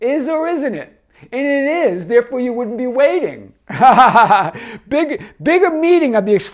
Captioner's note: laughs